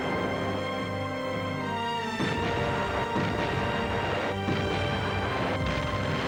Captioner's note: dramatic symphonic music; explosions booming